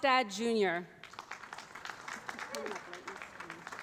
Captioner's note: applause